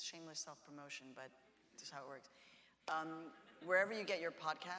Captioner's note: audience laughs